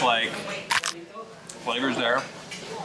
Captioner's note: taco crunches